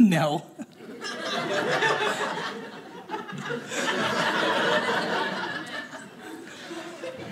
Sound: audience laughing

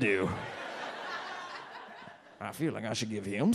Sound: audience laughs

